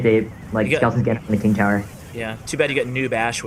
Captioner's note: choppy audio